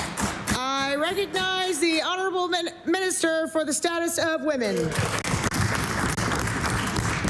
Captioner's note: applause